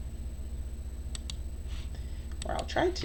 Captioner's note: computer mouse clicking